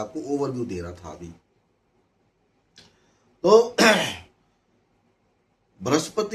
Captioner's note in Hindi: गला साफ़ करने की आवाज़